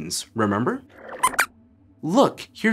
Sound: squeaks squeaks

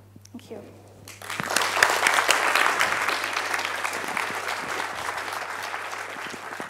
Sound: applause

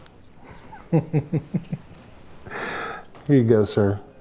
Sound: laughs

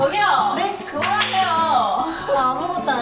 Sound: clap,clap

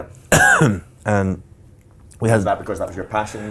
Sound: coughs

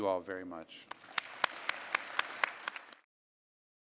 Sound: clapping

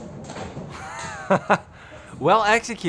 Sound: chuckles

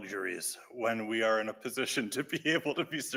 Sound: laughs

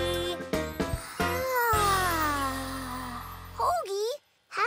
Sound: Hogi sighs

